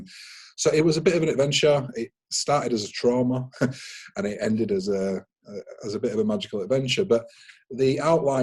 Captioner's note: chuckles